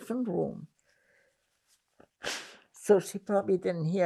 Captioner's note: wiping nose